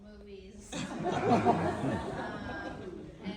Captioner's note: audience laughter